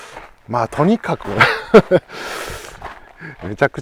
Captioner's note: laughs